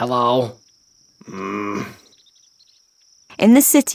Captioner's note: man grunting